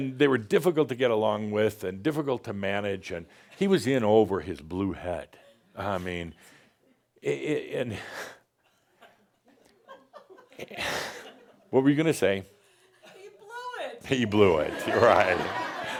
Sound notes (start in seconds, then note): 8.6 some giggles; 14.5 laughter